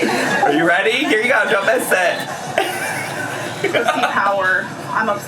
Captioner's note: laughs